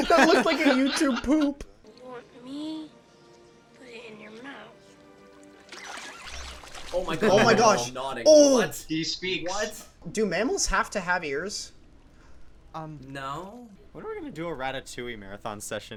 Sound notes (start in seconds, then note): 5.2 enthusiastic squeaking